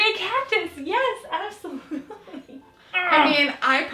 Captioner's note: laughing